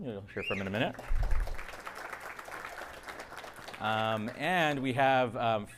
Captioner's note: audience applauding